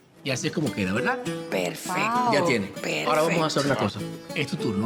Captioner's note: speaks Spanish